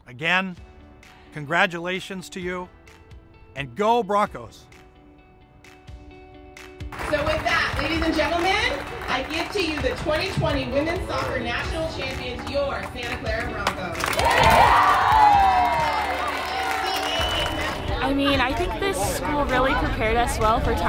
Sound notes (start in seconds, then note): 13.9 crowd cheering